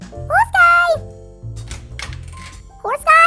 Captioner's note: door opens